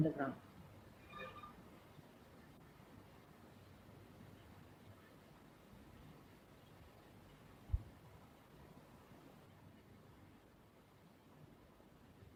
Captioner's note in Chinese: 停頓